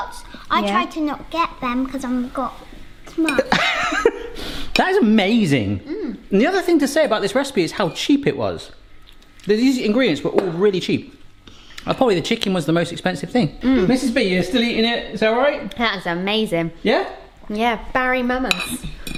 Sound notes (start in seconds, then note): 3.3 laughing